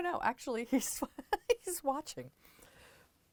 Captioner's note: laughter